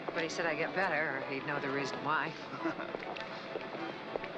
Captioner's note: chuckling